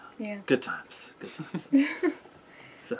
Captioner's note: laugh